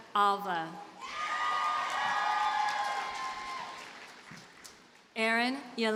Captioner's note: audience cheers and applauds